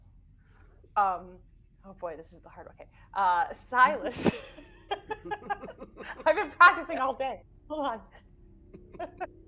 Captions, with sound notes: - Oh boy. This is the hard. Okay, Silas. (laughing) I've been practicing all day. Hold on.